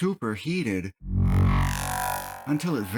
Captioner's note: laser Sound